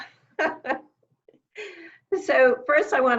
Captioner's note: laughing